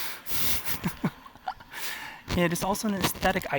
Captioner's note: laughter